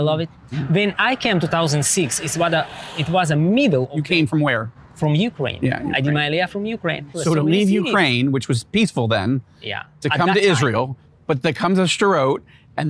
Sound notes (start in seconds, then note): 6.3 speaking in foreign language